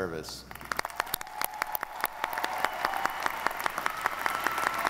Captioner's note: audience applauding